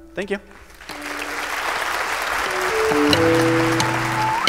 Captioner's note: crowd applause